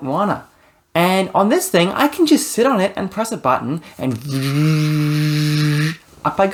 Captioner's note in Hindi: एक्ट्यूएटर शोर